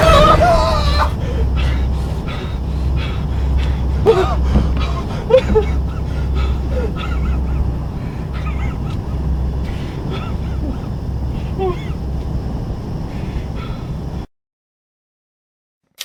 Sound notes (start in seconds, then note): 0.0 Larry gasping; 6.3 Larry whimpering